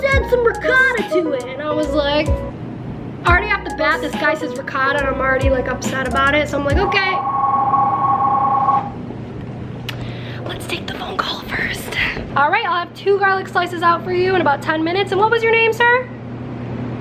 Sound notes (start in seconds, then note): 6.7 phone rings